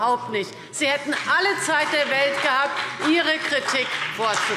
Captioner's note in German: Beifall BÜNDNIS 90/DIE GRÜNEN und vereinzelt CDU